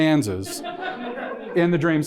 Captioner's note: audience laughing